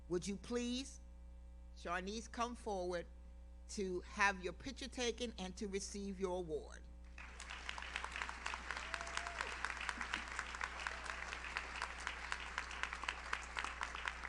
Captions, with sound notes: Would you please, Charnice, come forward to have your picture taken and to receive your award? (audience applauds) (audience member cheers)